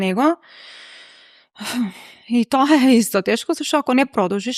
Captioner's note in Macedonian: тешко дишење